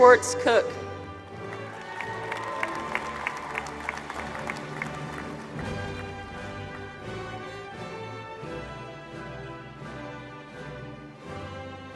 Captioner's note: applause